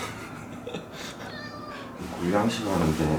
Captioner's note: meow